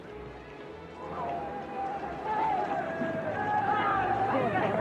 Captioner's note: photographers yelling